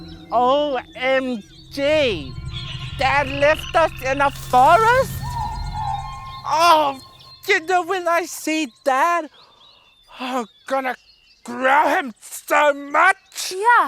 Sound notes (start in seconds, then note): 0.0 bird screeches ominously